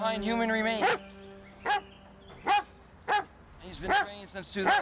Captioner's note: dog barking